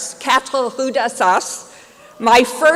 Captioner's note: speaking french